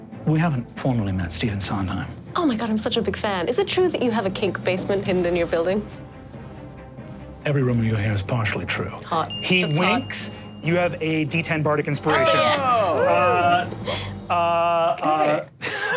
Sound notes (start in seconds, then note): 12.0 group cheers